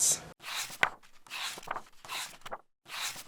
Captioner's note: pages turning